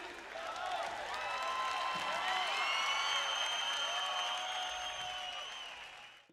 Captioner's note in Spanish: aplausos